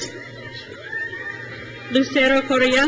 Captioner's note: crowd cheers